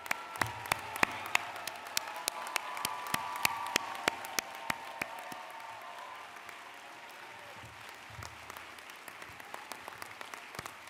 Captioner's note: applause